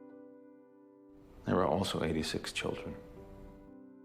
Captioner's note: voiceover